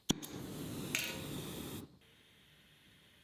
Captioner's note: fire roaring